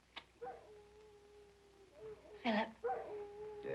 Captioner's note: dog howling